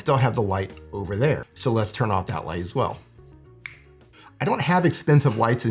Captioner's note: snaps finger